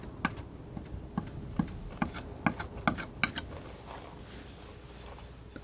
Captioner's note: scratching